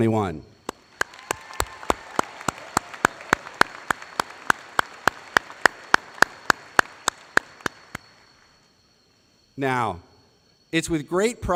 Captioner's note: applause